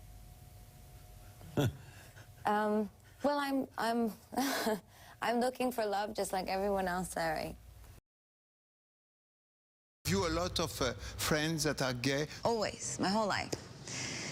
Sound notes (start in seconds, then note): 1.5 laughs nervously; 1.5 laughs